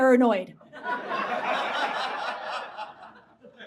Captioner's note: audience laughs